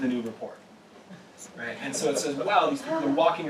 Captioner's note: laugh